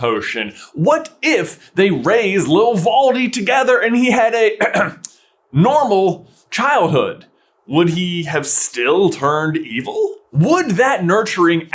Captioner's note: clears throat